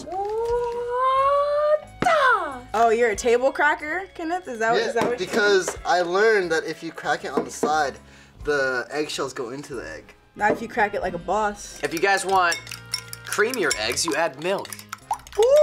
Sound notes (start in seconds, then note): none